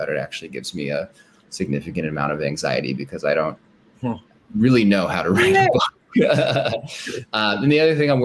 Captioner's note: laughter